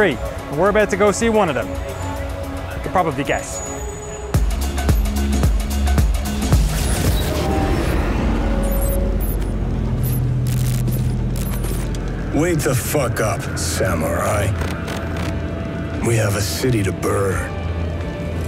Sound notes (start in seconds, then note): 3.6 jazzy music; 8.4 beeping